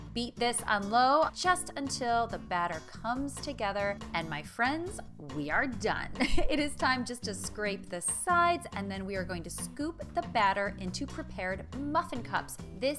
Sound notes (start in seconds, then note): 6.2 chuckling